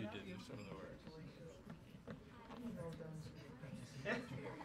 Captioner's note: low chatter